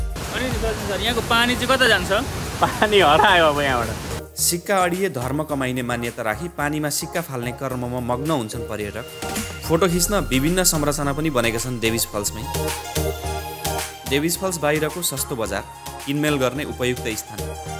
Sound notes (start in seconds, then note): 2.6 laughter